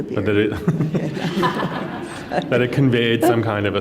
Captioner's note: laughter